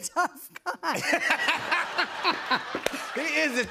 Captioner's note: laughter; laughs